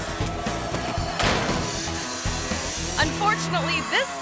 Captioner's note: dirt bike thuds